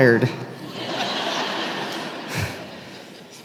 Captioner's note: laughter